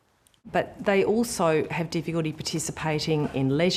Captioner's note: none